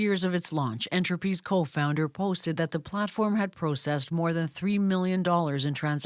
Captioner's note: speaking in spanish